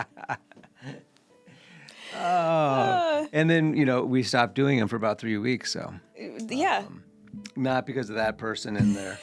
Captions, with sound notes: (laughing) And then we stopped doing them for about three weeks, so. Yeah. Not because of that person in their--